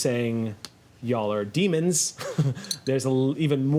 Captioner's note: laughs